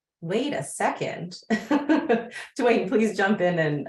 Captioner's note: laughing